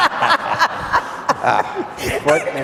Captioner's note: all laughing